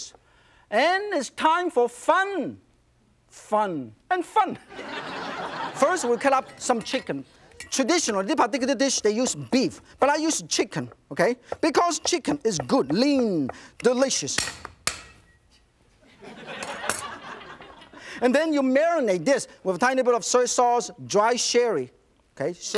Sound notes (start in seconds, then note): 4.6 audience laughs; 14.6 knife clangs; 16.0 audience laughs